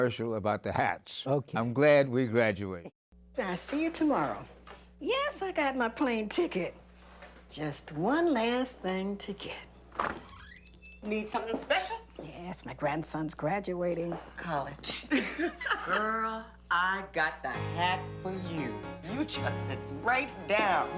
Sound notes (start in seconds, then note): 11.6 bell ringing; 17.2 laughing